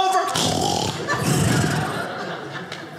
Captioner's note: snoring; audience laughing